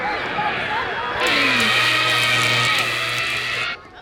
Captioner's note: crackling